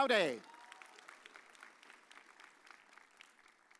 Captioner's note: audience cheers